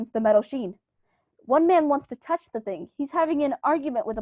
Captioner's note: faint humming sound begins